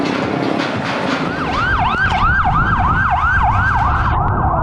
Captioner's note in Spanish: Sirenas